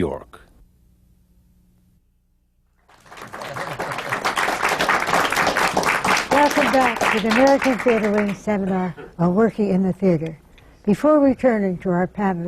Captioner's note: applause